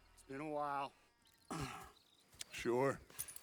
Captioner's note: clears throat